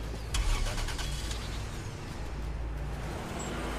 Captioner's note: engine starts